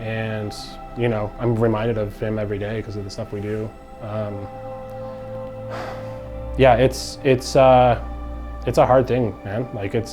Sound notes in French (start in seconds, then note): 5.4 soupirs